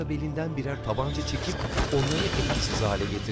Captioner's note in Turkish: Vurma sesi